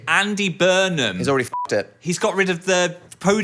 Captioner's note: beep